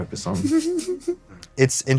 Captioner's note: giggles